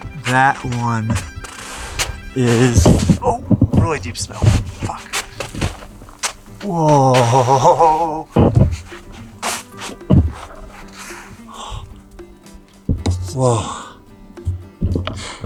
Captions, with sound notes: That one is (groans) really deep snow. Fuck. Whoa! (mellow acoustic music) Whoa.